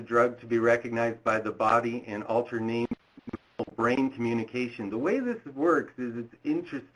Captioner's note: audio distorted